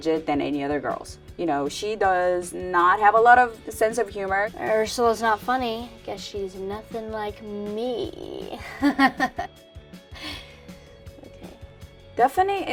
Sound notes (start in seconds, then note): 8.5 laughs